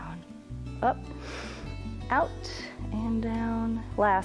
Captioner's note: inhales